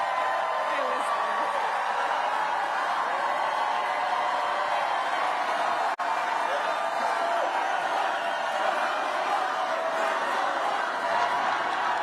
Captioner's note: cheering and applause